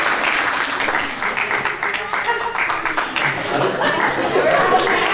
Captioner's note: applause